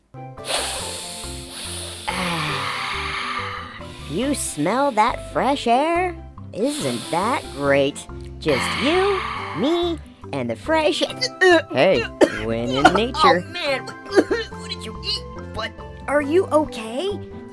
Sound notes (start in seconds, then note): 0.4 inhale; 11.1 gag; 13.9 gag